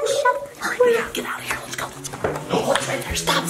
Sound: whispering

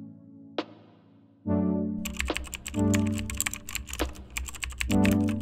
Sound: typing sounds

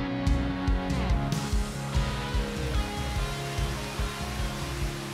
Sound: water rushing

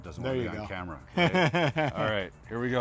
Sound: chuckles

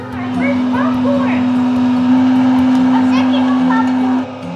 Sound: popcorn maker grinds

